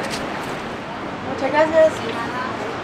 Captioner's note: in Spanish